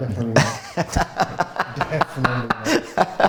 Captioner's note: laughs